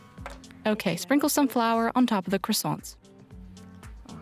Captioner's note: French